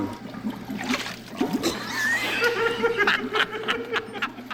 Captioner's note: laughter